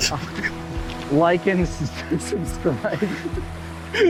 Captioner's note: laughing